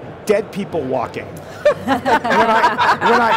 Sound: laughing

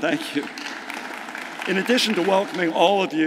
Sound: audience clapping

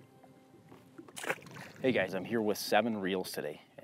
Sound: water splashes

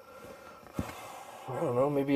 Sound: sigh

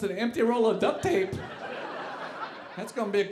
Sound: audience laughing

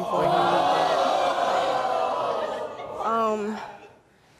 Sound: audience oohing

